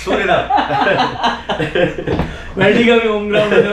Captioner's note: chuckles